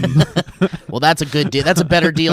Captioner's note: laughing